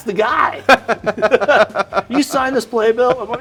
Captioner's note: laughing; Cameron laughing